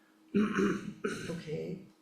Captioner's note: speaker clearing throat